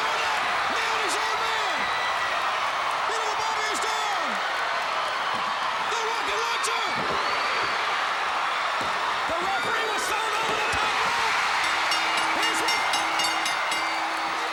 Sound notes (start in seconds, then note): 2.5 crowd cheering; 6.9 crowd cheering; 11.4 crowd cheering; 11.4 bell ringing; 14.2 crowd cheering